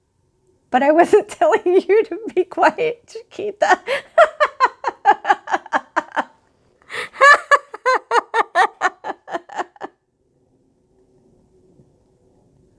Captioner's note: laughing